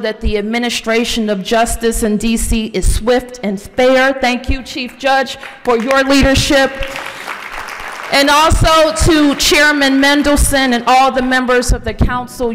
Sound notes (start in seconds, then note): 7.3 applause